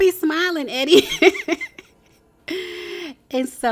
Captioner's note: laughing